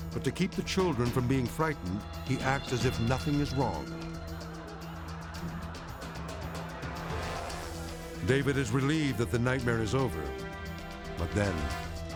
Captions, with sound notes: But to keep the children from being frightened, he acts as if nothing is wrong. (audience laughing) (light intense music) David is relieved that the nightmare is over, but then,